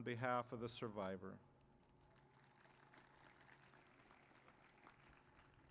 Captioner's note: applause